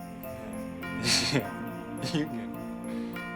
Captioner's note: laughing